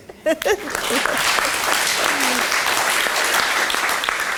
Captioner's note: applause